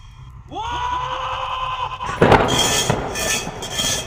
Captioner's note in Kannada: ಕಿರುಚುವಿಕೆ